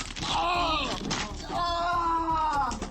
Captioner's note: thud